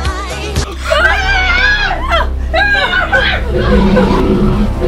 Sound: screaming; growling

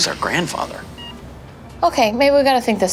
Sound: machine beeping

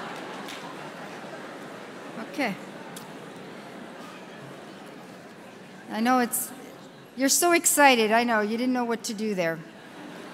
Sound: laughter

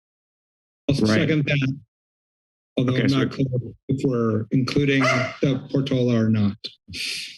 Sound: barking

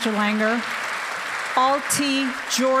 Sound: applause

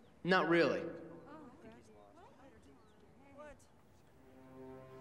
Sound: crowd murmuring

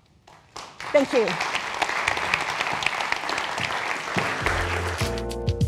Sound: audience applauding; soft music

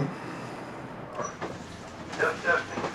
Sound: voice from speaker

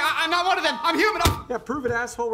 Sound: thump

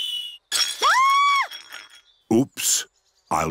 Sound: clattering and shrieking

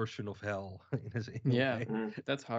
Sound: chuckles

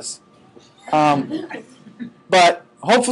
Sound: students laughing

